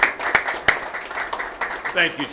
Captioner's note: applause